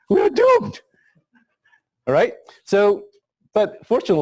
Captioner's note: pause